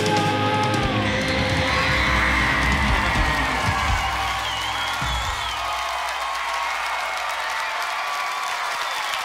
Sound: audience cheering

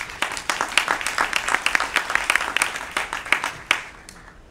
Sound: applause

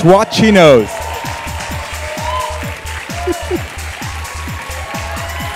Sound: applause

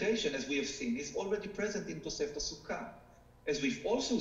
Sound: speaking foreign language

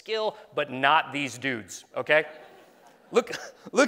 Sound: laughing

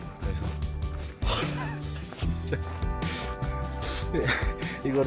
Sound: burst out laughing

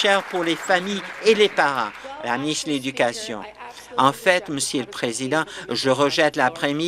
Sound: applause

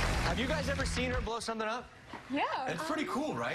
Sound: cheers and applause

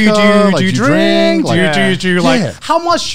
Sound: in Unison

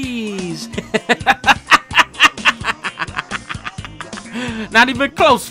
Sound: laughing

